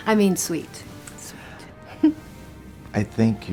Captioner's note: chuckles